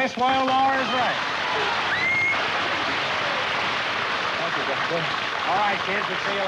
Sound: applause

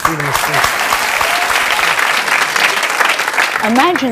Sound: audience cheering and clapping

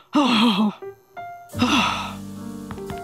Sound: sighing

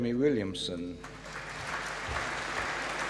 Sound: applause

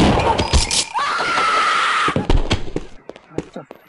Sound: screaming

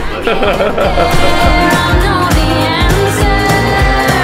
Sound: laughing

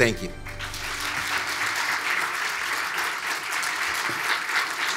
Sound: audience applauds

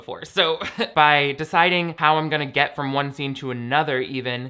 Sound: laughs

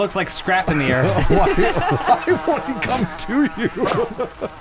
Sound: laughing

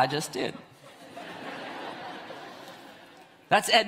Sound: audience laughs

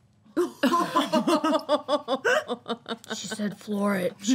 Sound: all laughing

